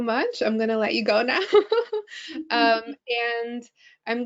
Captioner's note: laughing